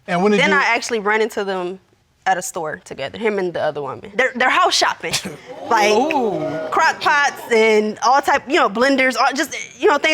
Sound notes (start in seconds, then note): 5.5 all exclaiming